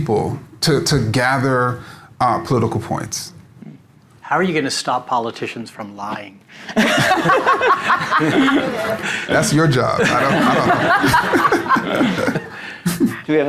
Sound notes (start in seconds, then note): 6.7 audience laughing